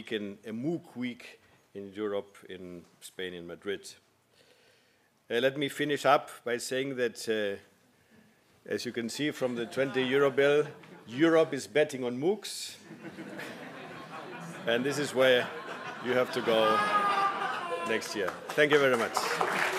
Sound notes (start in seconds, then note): 12.9 laugh; 19.5 applause